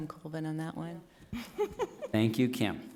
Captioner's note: laughs